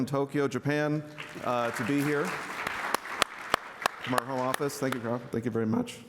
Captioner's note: applause